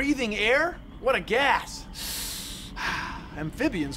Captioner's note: inhales, exhales deeply